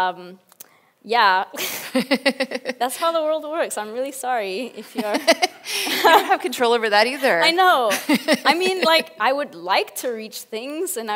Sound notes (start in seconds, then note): 1.6 both laugh; 5.3 laughs